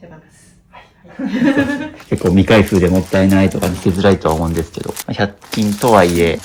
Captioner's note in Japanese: 笑い